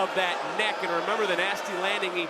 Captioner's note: crowd roars